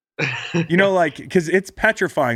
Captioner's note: Sean laughs